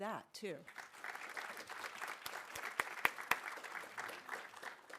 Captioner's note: audience applauding